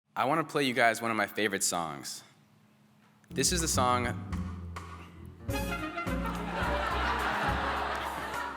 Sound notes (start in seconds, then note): 6.2 laughter